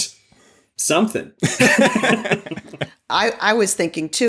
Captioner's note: laughter